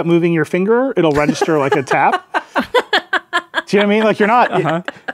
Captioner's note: laughing